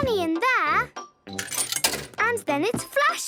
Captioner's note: coin tumbling